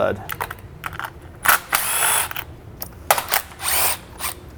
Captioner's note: drill whirring